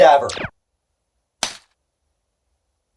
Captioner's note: plap